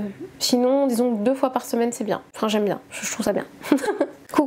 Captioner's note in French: rires